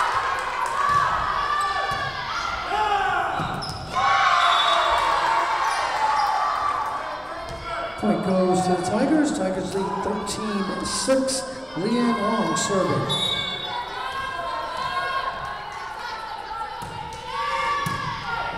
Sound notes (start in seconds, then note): 4.3 whistle blowing; 4.5 crowd cheering; 13.0 whistle blowing